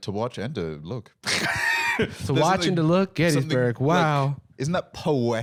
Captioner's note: laughs